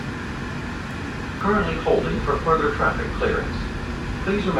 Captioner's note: automated Announcement